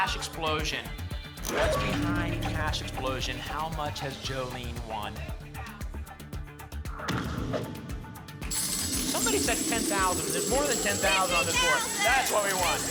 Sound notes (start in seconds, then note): 7.0 thump; 8.5 coins jingling